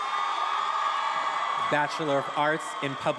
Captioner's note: attendees applauding and cheering